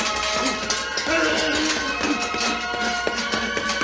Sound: punching and grunting continue

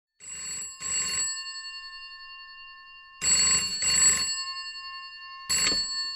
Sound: phone rings

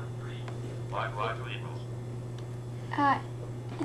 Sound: Electronic voices of calculators

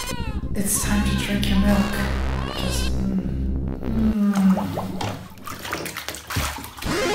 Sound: moaning

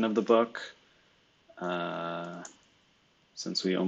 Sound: computer keyboard clicking

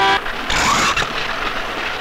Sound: train horn blares; door creaks

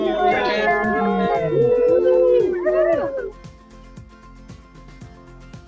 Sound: cheering

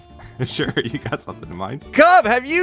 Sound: chuckles

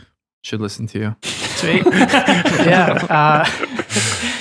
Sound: all laughing

